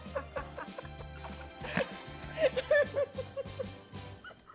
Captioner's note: laughing